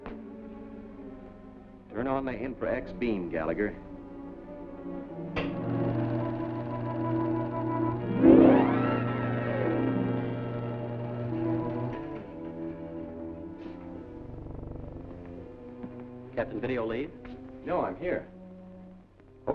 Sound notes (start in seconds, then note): 5.2 switch clicks; 11.4 switch clicks off